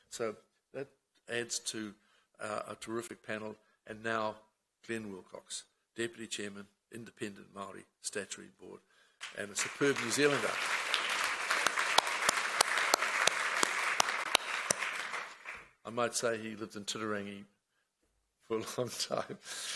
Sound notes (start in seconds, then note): 10.8 applause